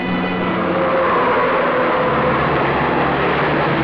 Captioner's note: tires screech